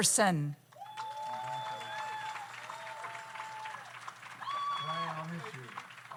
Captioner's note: audience cheers; audience applauds